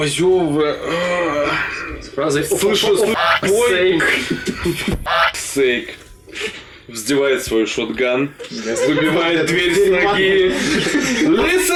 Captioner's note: laughing